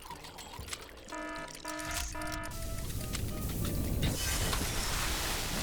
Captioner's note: alarm buzzing; exploding; liquid splashing